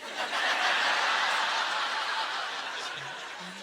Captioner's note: audience laughter